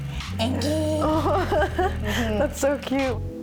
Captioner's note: laughs